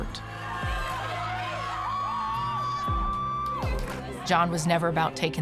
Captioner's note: players cheering